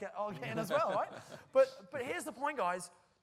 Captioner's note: laughter